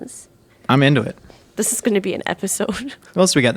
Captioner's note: laughing